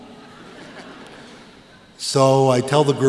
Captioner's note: laughter